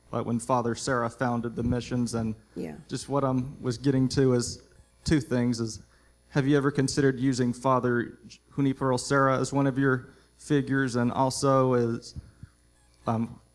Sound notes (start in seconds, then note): none